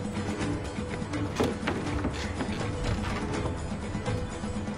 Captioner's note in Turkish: Kapı Sesi